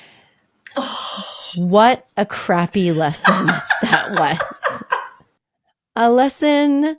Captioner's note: laughing